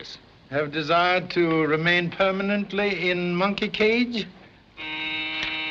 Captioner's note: doorbell Buzzing